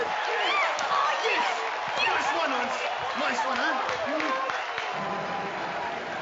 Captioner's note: cheering and screaming